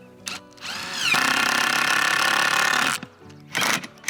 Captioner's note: drilling